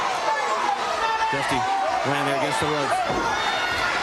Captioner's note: crowd cheering